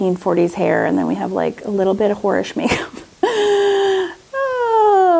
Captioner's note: laughs